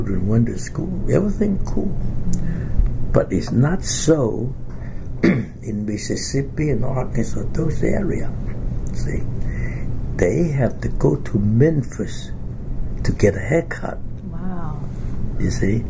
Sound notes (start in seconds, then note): 5.2 coughs